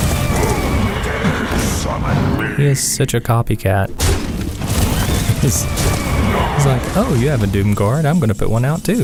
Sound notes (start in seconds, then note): 3.7 haha